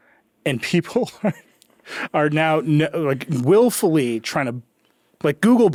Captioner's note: chuckling